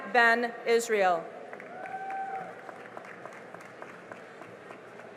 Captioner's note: cheering and applause